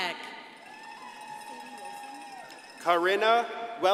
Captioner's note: crowd applauding and cheering